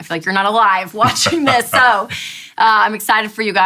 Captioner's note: laughs